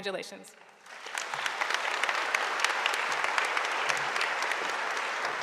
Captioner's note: audience applauding